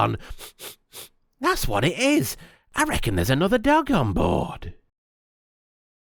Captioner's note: sniff sniff